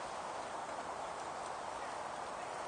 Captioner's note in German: Vögel zwitschern